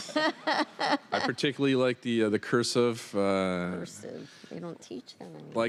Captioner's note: laughter